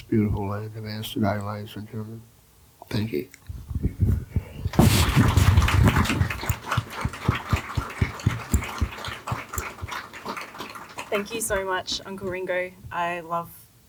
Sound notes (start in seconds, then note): 4.7 applause